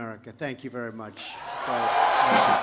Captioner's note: applause